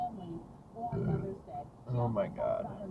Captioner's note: burp